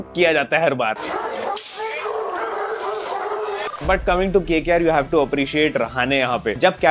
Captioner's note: dogs barking